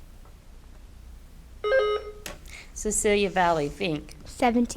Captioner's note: buzzer beeps